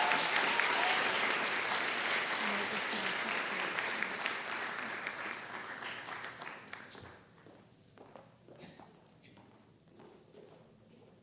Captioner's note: applause